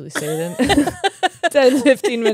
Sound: laugh

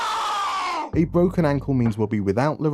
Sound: scream of pain

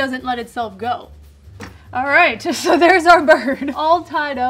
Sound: laughs

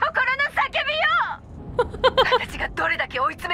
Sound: chuckles

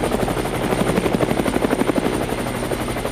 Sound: more helicopter

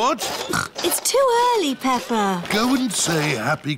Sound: snorts

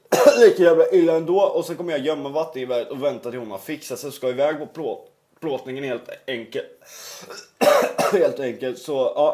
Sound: cough

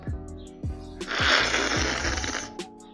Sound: slurping sound

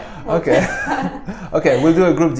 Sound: laughs

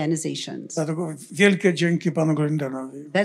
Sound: foreign language

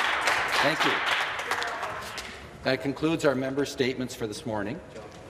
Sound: applause

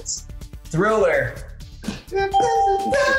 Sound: ding

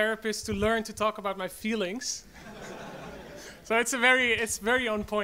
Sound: audience laughs

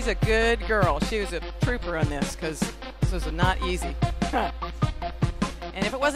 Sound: laughs

